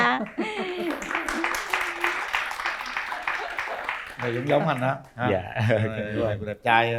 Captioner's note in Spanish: Aplaudir